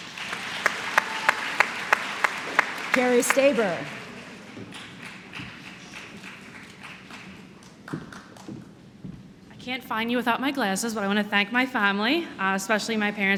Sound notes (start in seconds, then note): 0.7 applause; 6.7 applause